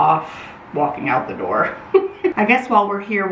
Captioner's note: laughs